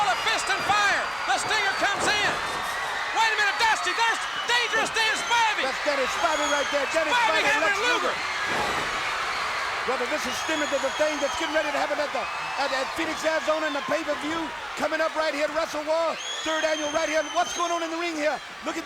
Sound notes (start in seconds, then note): 8.2 crowd cheering